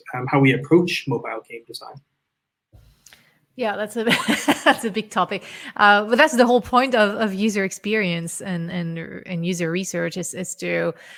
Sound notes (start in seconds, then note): 4.0 chuckles